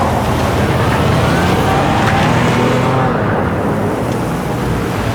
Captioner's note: engine revving